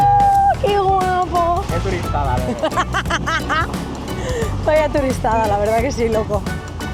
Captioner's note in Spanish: risas